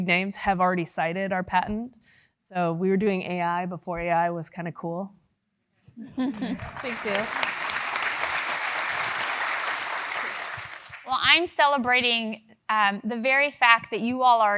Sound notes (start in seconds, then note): 6.2 laugh; 6.3 applause